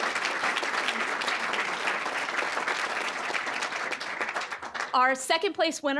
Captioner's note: applause